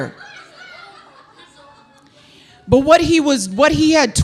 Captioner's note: audience laughing